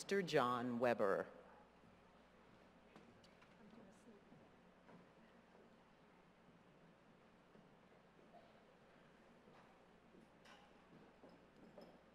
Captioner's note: silence